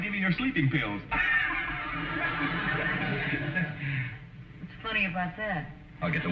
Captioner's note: chuckling; audience snickering